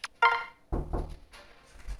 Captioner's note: someone knocks at the door